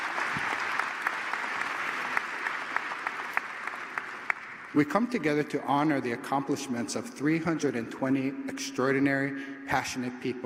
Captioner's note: applause